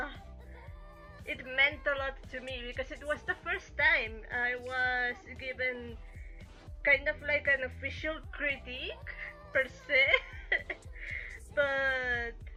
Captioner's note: chuckle